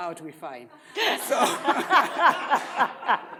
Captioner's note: audience laughs